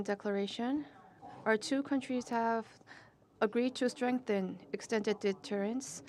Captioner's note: speaking non-english